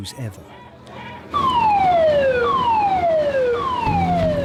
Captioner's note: alarm wailing